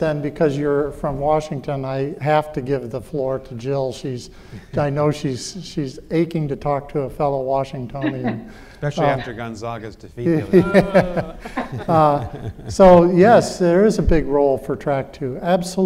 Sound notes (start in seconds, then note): 10.2 all laughing